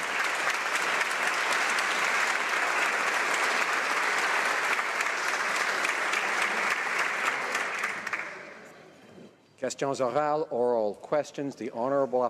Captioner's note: applause